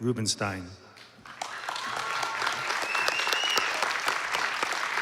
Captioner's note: applause